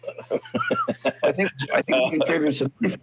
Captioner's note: laughs